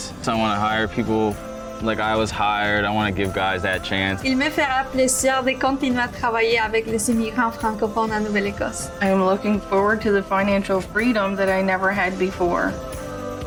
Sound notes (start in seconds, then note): 4.3 interviewee speaks in Spanish